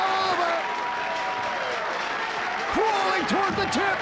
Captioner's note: audience applauding